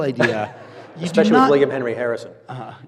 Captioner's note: audience laughs